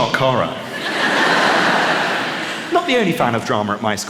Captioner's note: laughter